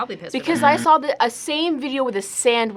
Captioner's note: buzzer rings